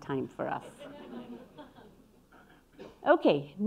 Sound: audience laughing

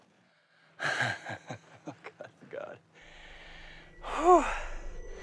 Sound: laughs

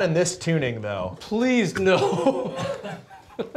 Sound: laughs

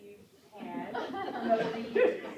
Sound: laughter

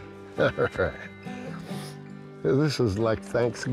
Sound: laughs

